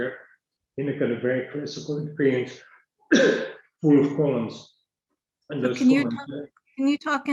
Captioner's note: coughs